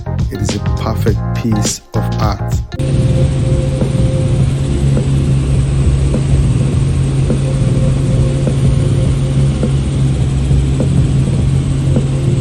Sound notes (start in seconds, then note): 3.1 helicopter whirring; 8.2 upbeat bright music continues